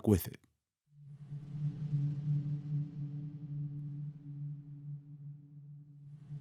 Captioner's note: soundbite of electronic wave pulsing